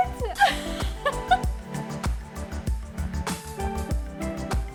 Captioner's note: laughing